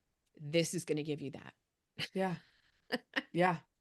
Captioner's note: chuckles